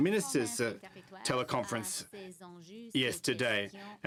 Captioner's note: speaking French